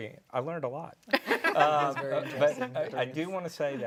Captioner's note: laughter